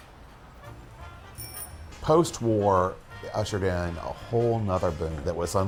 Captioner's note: sad piano music; upbeat music; bicycle bell ringing